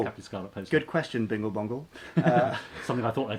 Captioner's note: laughing